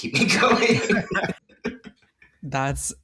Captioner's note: laughter